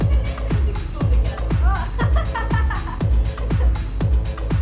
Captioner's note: laughing